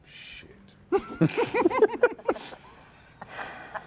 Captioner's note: laughter